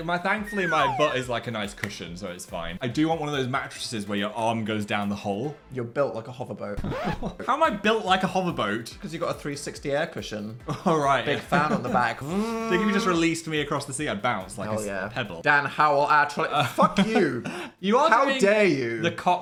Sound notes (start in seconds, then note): 6.9 record scratching; 12.2 Dan mimics fan whirring